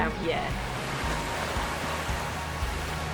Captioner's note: waves breaking; upbeat music